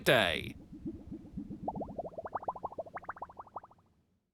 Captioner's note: excellent cartoon waving sounds